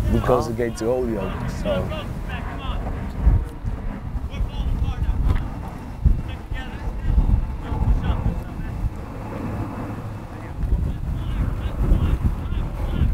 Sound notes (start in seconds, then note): 3.4 players talking and yelling